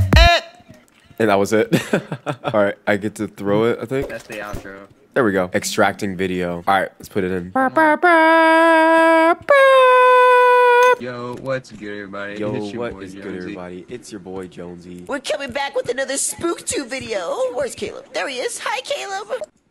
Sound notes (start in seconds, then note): 7.5 imitates trumpet